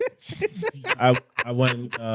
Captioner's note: laughing